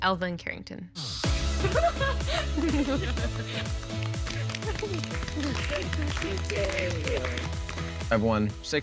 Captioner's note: laughing